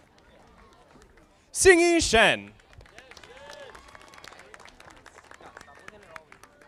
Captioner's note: audience applauding